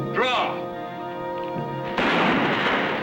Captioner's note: gunshot